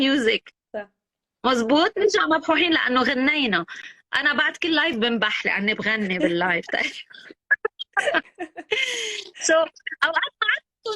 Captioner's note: laughs